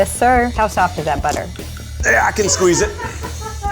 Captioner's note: straining